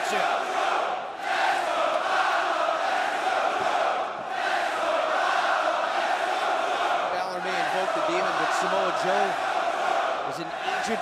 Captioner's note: crowd cheering